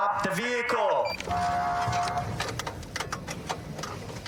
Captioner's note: horn blaring